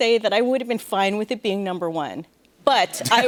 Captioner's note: laughter